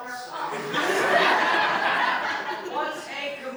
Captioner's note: laughter